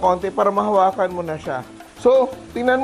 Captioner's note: sizzle